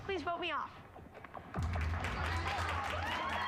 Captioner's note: applause